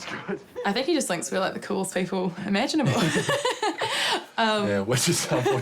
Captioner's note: laughs